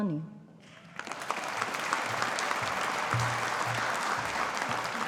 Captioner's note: audience applauding